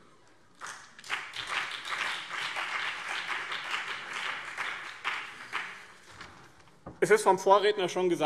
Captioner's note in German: Beifall BÜNDNIS 90/DIE GRÜNEN und CDU